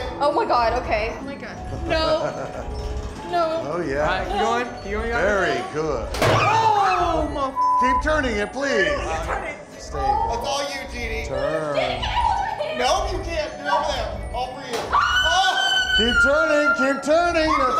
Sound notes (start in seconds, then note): 6.1 loud click; 14.9 screams